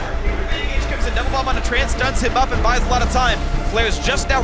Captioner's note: commentator chatter